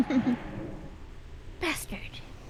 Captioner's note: laughs